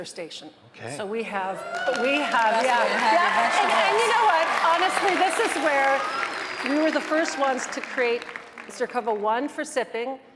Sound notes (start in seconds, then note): 2.0 audience applauding; 2.0 audience cheering